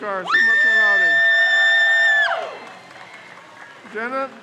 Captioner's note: crowd cheers